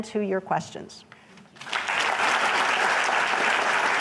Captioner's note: applause